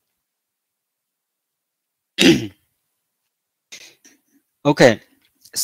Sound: 沉默，咳嗽

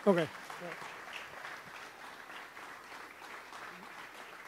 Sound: audience applauds

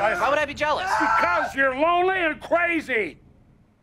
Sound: TROY stops screaming

